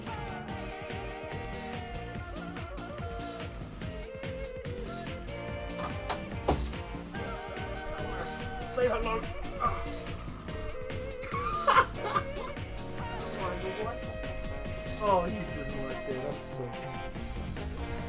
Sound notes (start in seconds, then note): 11.2 Kiwi laughter